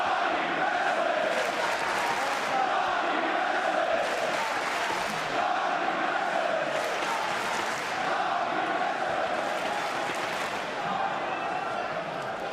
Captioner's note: crowd cheering